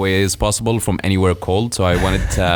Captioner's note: laughing